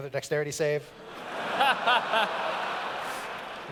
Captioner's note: laughter